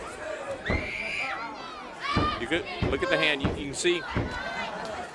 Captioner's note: crowd chatter